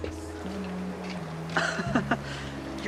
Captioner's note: resident laughs